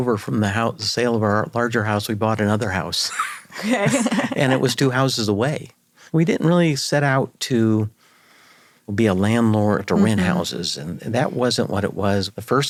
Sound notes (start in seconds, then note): 3.0 chuckles; 3.1 laughs